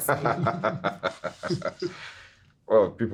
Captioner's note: everyone laughing